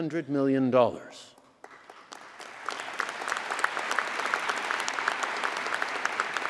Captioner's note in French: Applaudissements